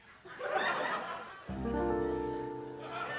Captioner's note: laughter; soft piano music plays